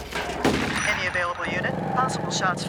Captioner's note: shot fires